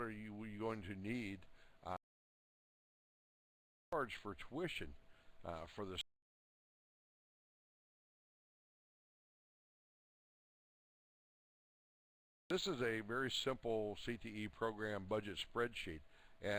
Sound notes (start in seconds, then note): 2.5 audio drops; 9.6 audio drops